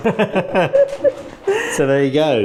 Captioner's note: laughing